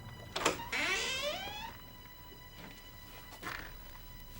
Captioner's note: creaky door opening